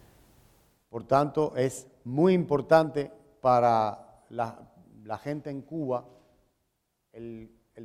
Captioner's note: speaking in Spanish